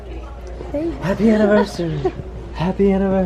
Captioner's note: laughs